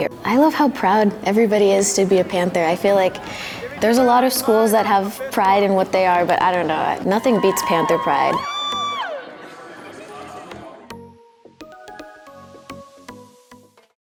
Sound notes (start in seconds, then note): 7.2 students cheering; 11.4 light music